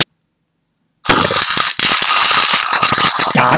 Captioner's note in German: Mahlgeräusche